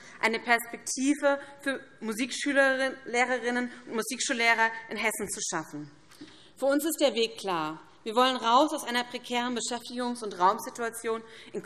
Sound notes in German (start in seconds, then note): none